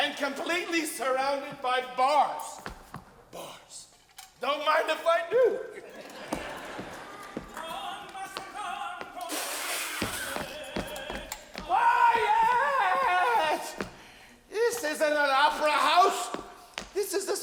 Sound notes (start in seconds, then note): 0.0 audience laughing; 5.4 audience laughing; 7.9 man singing